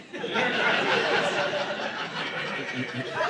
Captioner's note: audience laughing